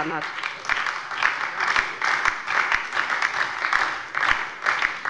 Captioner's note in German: Beifall bei der LINKEN und der SPD